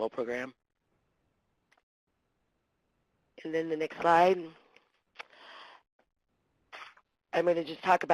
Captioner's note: pause